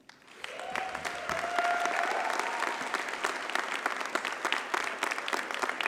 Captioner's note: audience cheers and applauds